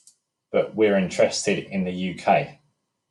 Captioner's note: mouse clicking